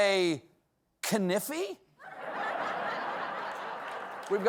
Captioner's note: laughter